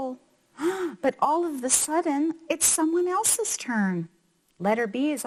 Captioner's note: gasps